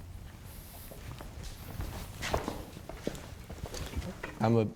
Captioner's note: feet stomping